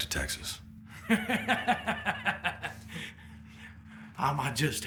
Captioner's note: Beauregard laughs